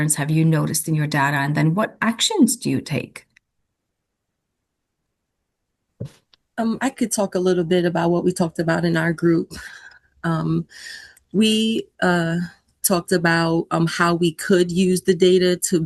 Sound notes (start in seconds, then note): none